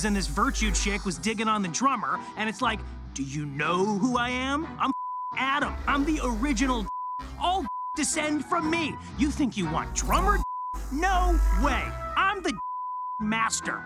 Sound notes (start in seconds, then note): 4.9 beep; 6.8 beep; 10.0 beep; 12.4 beep